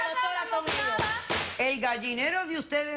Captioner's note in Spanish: Comentarios al unísono